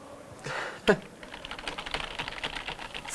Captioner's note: Tastaturgeklapper